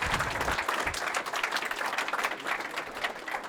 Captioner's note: applause